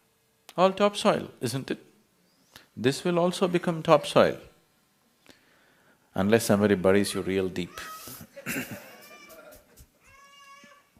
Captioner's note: ضحك